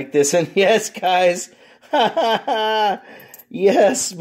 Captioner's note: laughs